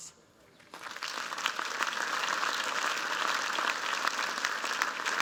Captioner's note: applause